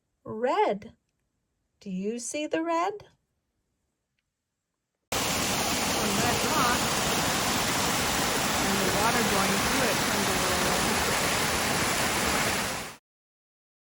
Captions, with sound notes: Red. Do you see the red? (water gushes) It's a red rock and the water going through it turns a little red.